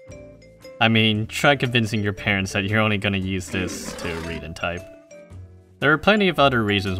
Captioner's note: walrus roars